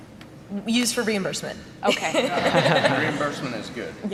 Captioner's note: laughing